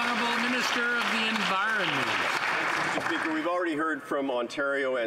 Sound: some Applause

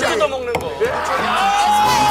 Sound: knock knock

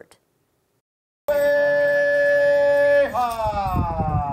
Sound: chanting

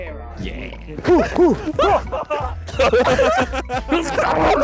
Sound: men laughing

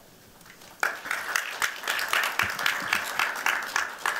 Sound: applause

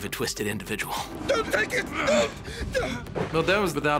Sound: grunts

